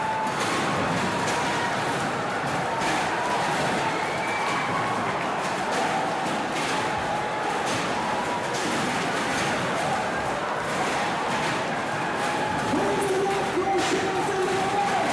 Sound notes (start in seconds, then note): 1.4 fans screaming; 2.4 chairs clanging